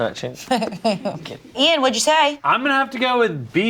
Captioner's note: laughs